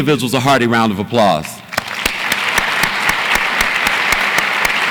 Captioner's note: audience applauds